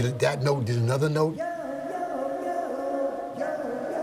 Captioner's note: echoing